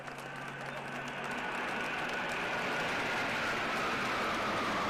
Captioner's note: jet engines roaring